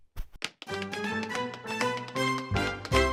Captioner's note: tapping feet